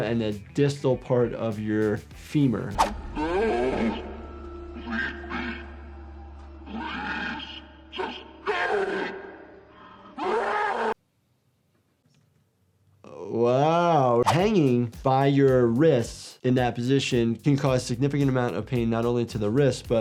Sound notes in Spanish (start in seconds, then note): 2.7 gráficos silbantes; 4.7 criatura gimiendo; 10.8 rugido